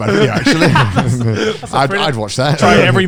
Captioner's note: group laughs